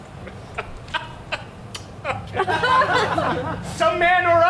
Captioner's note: laughs